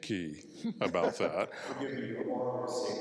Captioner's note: laughs